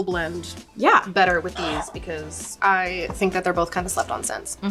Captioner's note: bottle sliding